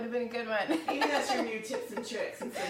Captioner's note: laughs